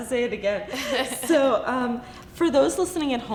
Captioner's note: laughs